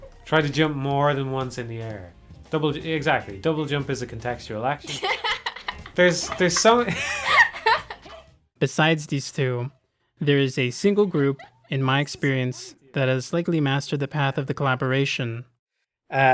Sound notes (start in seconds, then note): 7.5 both laughing